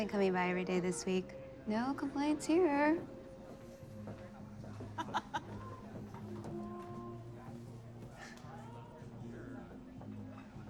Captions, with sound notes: He's been coming by every day this week. No complaints here. [laughs]